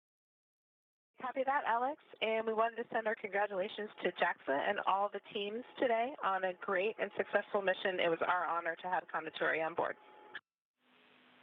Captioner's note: speaking foreign language